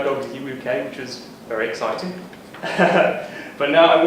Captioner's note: laughs